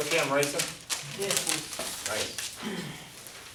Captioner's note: voiceover